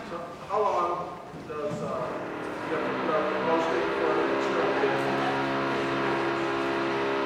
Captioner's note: construction noise in background